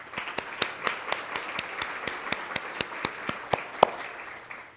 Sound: audience applauds

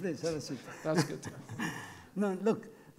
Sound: laughing

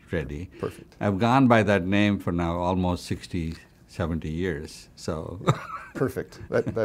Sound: laughs

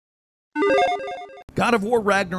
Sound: video game chimes ring

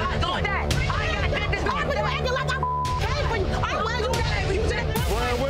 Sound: beep

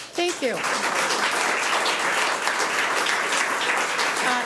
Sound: audience applauds

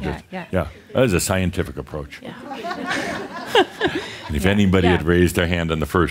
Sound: more chuckles

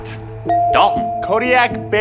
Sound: ding

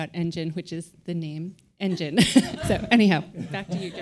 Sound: laughs

